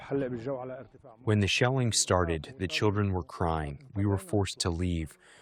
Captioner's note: through translator